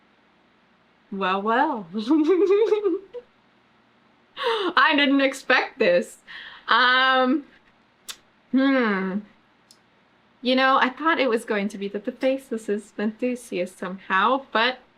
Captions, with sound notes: WELL WELL [LAUGHS] I DIDN'T EXPECT THIS UM HM YOU KNOW I THOUGHT IT WAS GOING TO BE THAT THE FACELESS WAS VENTHUSIAS SOMEHOW BUT